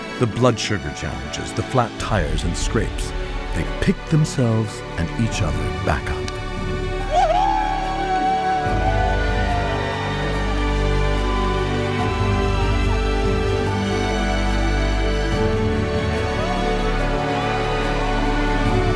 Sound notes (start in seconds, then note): 7.2 cheering; 10.9 slow dramatic music